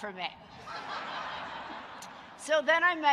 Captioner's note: audience laughing